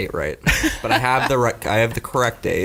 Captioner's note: laughing